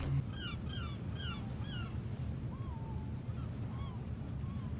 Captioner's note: seagulls